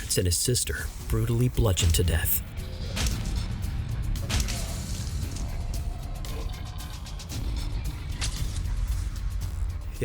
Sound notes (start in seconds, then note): 2.4 blows thudding; 2.4 ominous music